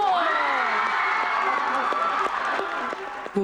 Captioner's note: cheers and applause